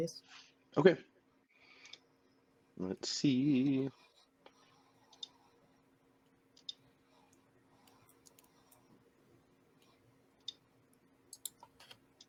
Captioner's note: Roll20 clicking